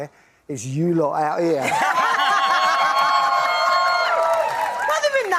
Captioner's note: laughing